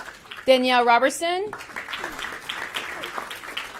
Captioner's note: applause